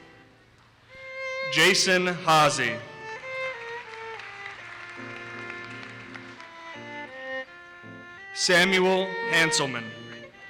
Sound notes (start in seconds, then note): 3.0 audience applauses